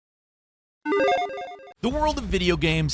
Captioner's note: retro game beep